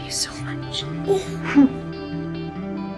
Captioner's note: voiceover; June laughs